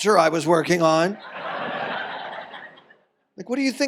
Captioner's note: audience laughs